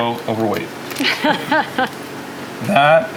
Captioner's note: laughing